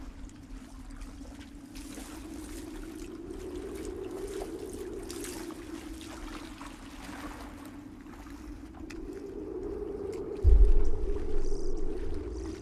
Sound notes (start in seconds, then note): 1.8 wind gushing